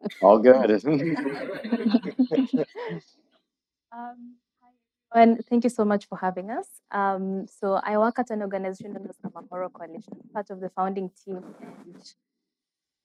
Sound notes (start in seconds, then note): 0.0 laughs